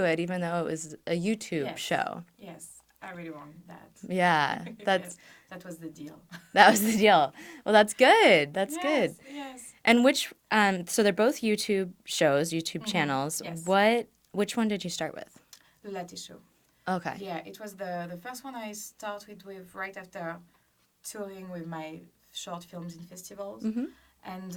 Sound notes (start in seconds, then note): 6.3 laughs